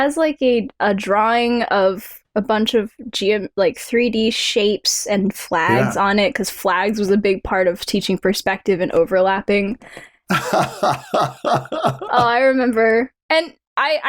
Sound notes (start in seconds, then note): 10.3 laughter